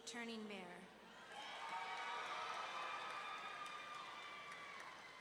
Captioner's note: audience cheering